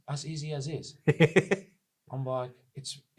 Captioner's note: chuckles